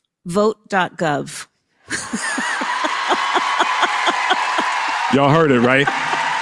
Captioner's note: laughs; applause